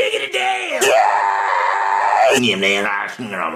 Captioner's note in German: schreit